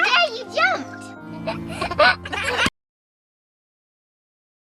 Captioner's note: giggles